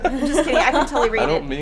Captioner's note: laughing